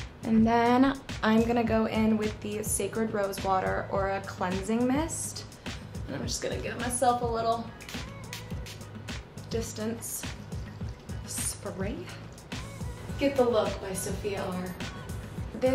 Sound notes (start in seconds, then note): 10.1 spraying